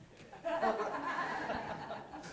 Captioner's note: laughter